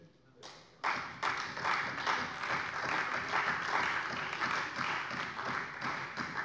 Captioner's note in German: Beifall bei der CDU